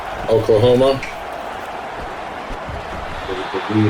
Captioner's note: crowd Noises